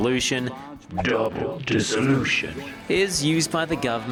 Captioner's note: deep serious voice